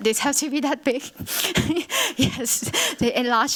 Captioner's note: laughs